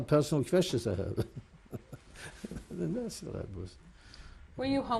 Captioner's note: laughs